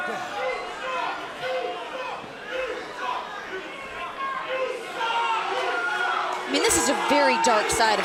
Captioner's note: crowd chatter